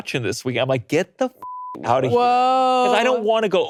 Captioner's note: beeps